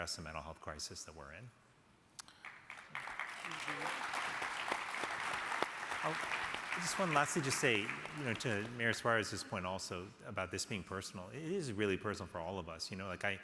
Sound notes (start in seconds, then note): 2.3 crowd applauding